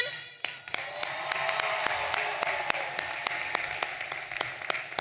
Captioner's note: audience cheering